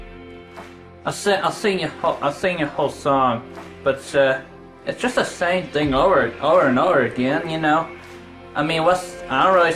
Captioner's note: stuttering